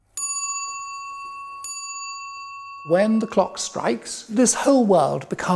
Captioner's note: chimes